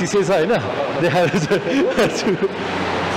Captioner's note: laughs